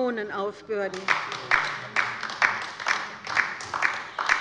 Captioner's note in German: Beifall bei der LINKEN